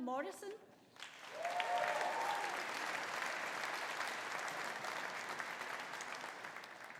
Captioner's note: audience applauding; audience cheering